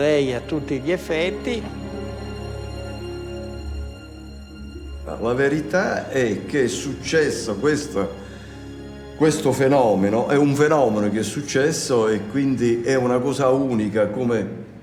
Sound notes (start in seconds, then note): 2.0 gentle music continues; 5.3 speaks in foreign language